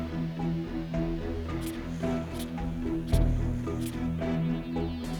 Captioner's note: polygraph scratching